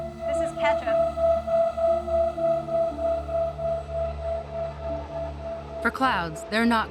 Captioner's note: machine whirring